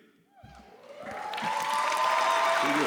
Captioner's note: audience cheers